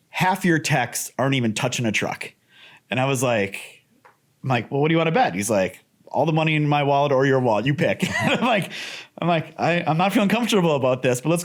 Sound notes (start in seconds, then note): 8.0 laughs